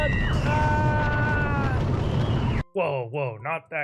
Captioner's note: screaming